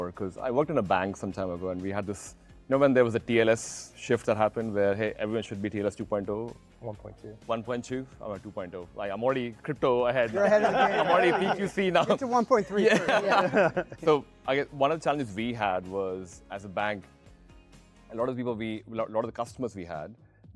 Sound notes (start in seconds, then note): 10.3 laughs; 13.2 panelists laughing